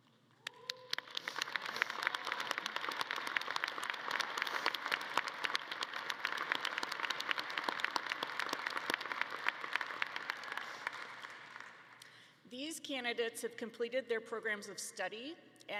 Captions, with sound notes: (audience claps) These candidates have completed their programs of study,